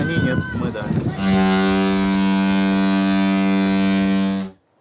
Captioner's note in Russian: гудок